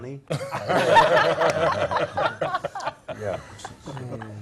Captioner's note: laugh